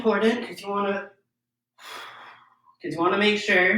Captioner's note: exhales deeply